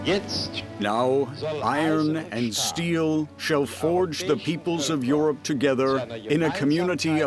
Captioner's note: in German